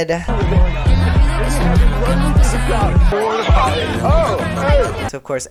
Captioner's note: general loud party noises